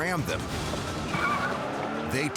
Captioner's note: engine revs